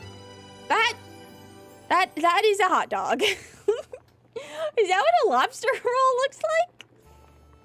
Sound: laughs

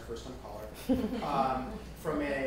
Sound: people laughing

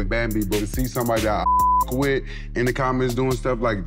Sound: beep

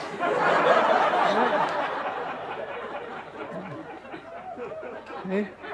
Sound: audience laughter

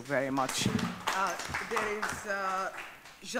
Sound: audience clapping

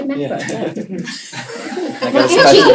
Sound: laughter

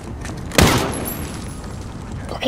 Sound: soldier speaking in foreign language; gun blasting

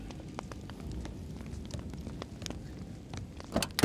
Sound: fire crackles

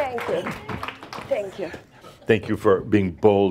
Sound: some laughter; some applause

